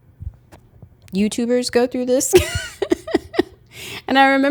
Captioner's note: laughs